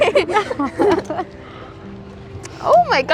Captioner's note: laughing